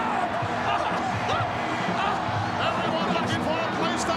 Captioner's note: laughs